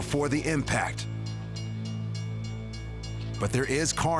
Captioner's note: bells dinging; suspenseful music